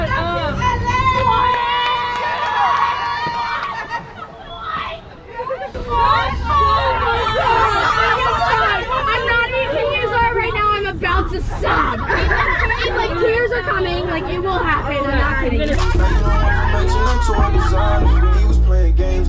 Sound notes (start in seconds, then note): 1.1 crowd clapping and cheering; 6.6 crowd talking; 11.6 crowd laughing; 15.4 hip hop music